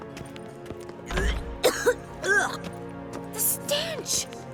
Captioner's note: gags, coughs